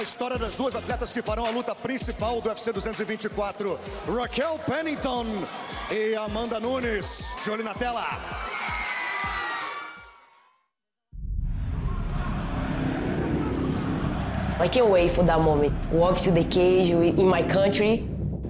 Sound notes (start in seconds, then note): 2.0 speaking foreign language